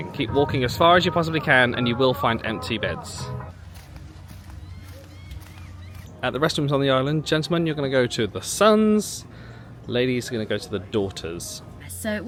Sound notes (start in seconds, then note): 4.1 footsteps shuffling; 4.6 bird cawing